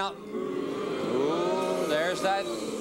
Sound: audience boos

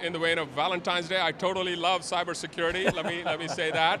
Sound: laughing

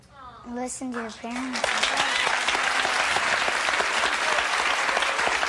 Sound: audience applauding

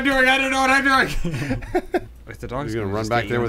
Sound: chuckling

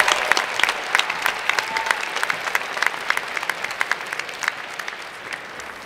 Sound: cheers and Applause

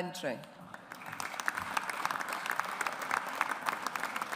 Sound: audience applauds

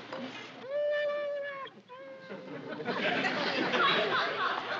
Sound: larry whimpering

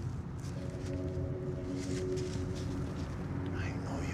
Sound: none

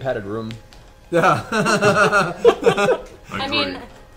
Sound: all laugh

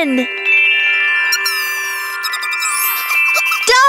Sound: Little Yellow Chickadee chirps excitedly

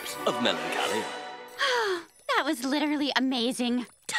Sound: sighing

